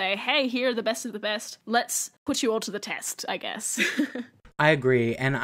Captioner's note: chuckles